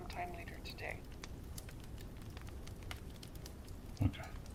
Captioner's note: fire crackling